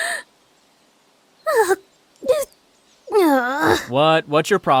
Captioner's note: disappointed noises